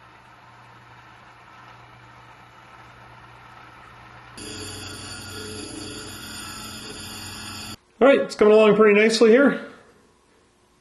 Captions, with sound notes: (wheel grinding) alright, it's coming along pretty nicely here